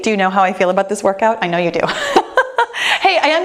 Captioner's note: laughs